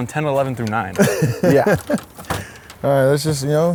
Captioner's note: laughs